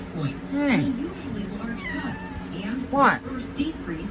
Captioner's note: Caprice meows